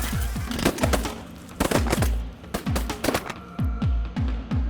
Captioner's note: gun shots